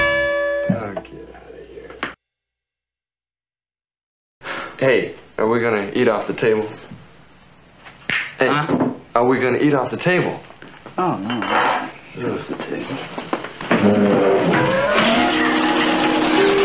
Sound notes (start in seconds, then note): 8.1 snaps fingers